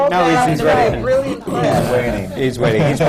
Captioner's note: laughter